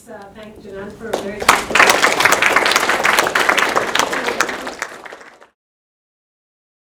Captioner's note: audience applauding